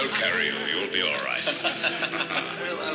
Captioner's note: laughter